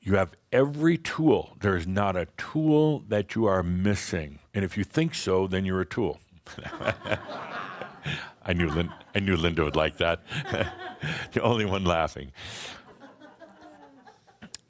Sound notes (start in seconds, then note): 6.6 some laughter; 10.2 laughs